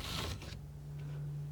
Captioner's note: scratching